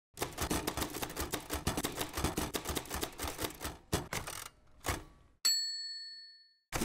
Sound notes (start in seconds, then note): 0.2 typewriter keys clicking